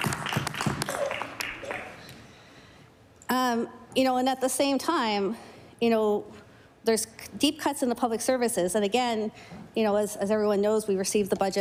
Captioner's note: applause